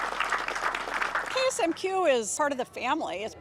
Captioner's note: all applauding